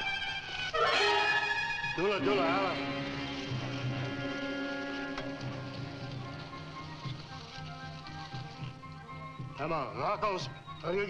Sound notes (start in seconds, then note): 1.8 man speaking in foreign language